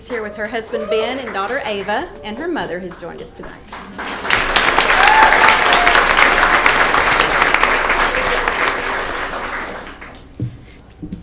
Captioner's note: applause